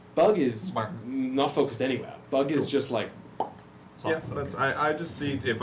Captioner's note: pop